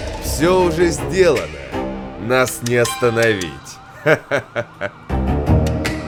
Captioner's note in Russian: смеётся